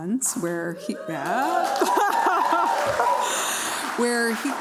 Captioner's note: laughter